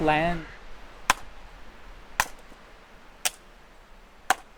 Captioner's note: chopping wood